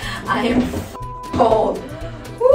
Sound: beep

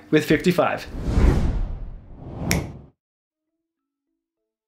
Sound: vortex noise

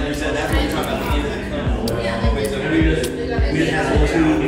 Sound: crowd conversation

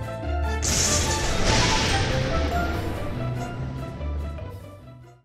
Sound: thunder crashing

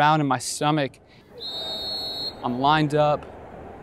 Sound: whistle blows

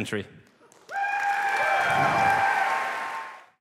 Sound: applause

